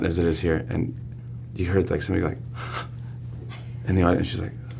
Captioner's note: gasps